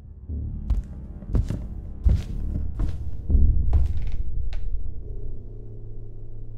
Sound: suspenseful ambient music; footsteps patter

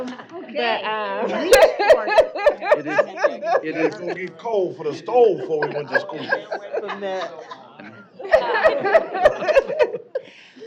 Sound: indistinct chatter; laughter

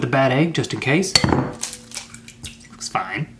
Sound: cracking

